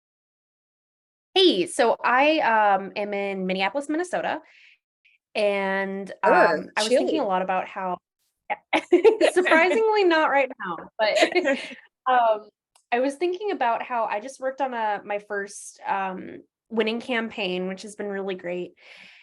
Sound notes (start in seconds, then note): 8.7 laughing